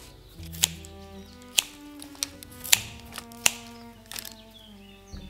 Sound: snip, snip, snip

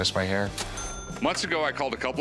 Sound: cash register ringing

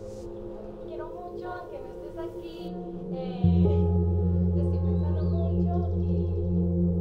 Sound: solemn music continues; people speaking in foreign language

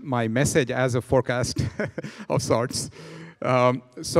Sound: laughing

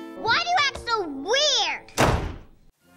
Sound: slams door

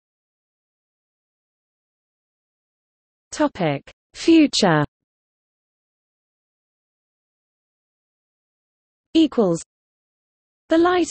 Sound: German

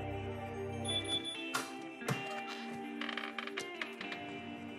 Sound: beep beep

